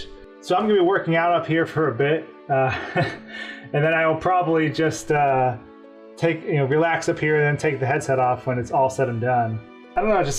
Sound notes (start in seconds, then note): 2.6 laughs